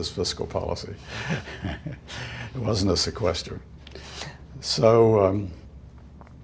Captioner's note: chuckle